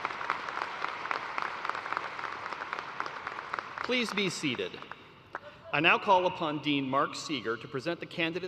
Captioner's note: cheers and applause